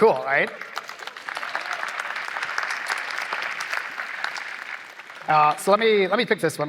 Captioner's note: applause